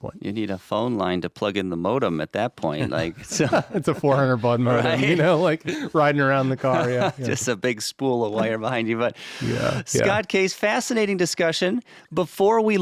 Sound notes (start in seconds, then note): 2.8 chuckling